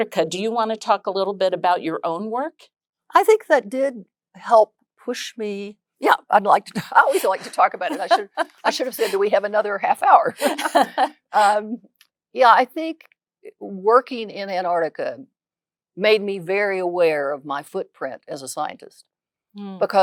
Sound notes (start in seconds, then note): 10.1 laughs